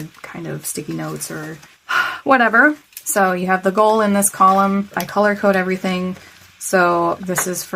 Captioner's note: sigh